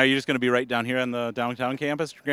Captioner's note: none